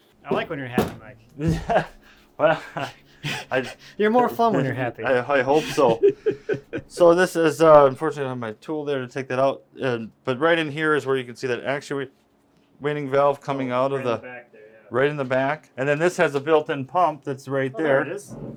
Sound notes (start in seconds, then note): 2.4 laughs